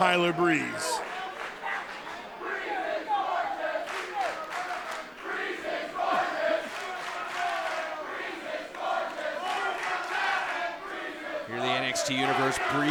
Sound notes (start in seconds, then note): 2.9 fans chanting